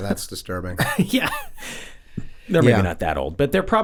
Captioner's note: chuckles